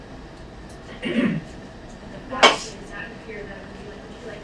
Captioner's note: speaking away from mic